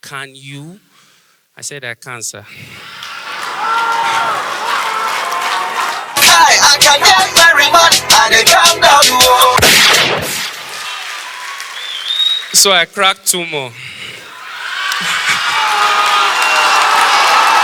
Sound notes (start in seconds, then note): 2.8 audience applause; 14.3 audience applause